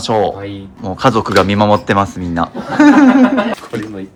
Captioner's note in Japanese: 笑い